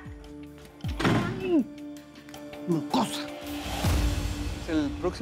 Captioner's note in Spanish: Portazo; Hablan al unísono